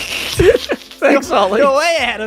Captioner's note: snickering